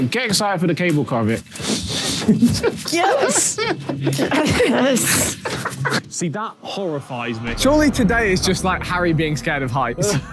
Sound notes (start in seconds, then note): 4.5 Tobi laughing